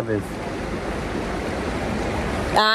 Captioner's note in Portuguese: água corrente